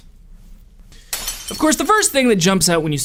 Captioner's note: glass shatters